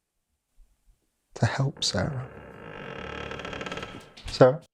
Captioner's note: door creaking